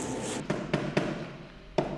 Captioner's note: hammering